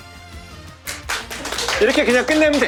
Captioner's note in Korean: 박수 소리